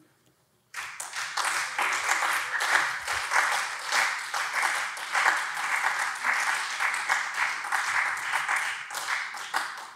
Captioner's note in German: Beifall SPD und CDU